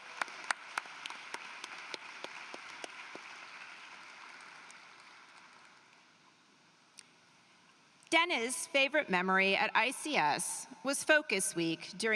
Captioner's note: applause